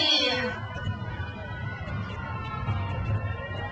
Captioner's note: crowd cheers